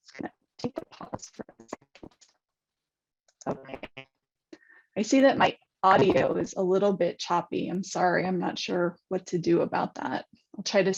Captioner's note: distorted audio